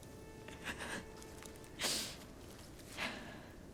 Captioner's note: sobbing continues